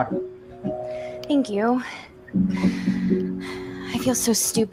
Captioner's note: sighs